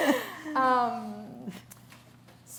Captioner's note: laughter